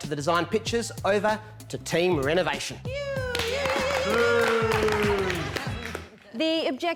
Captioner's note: cheering, applauding